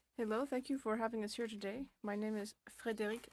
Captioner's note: speaking French